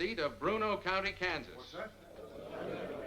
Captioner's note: spectators murmuring